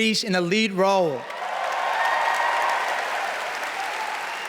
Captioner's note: cheering, applause